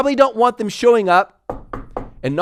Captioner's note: knuckles knocking on table